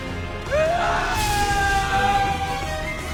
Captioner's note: yelling